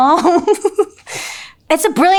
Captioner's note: laughing